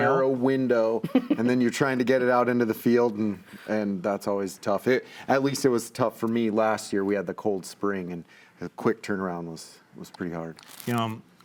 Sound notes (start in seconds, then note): 1.0 laughs